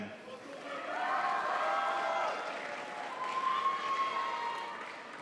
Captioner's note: crowd applauds